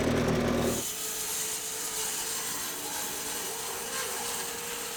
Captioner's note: saw whizzing